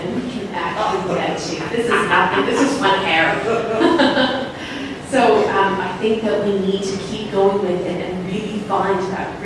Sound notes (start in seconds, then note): 1.7 laughter